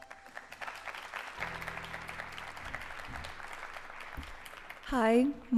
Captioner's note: applause